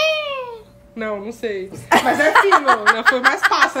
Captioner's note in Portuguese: risos